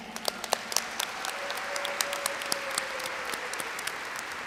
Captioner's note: audience applauds